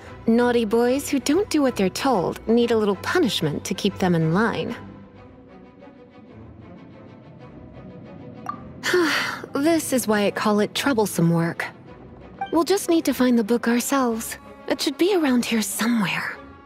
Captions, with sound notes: Naughty boys who don't do what they're told need a little punishment to keep them in line. A LITTLE punishment!? *sigh* This is why I call it troublesome work. We'll just need to find the book ourselves. It should be around here somewhere.